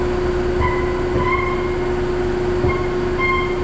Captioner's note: tire squeaking